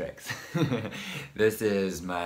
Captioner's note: laughs